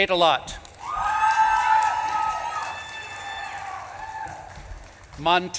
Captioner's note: audience claps and cheers